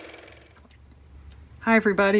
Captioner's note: car motor